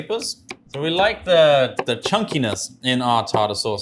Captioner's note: knife chops